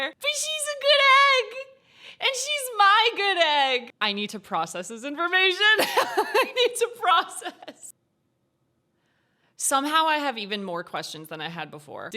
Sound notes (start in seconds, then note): 5.7 laughs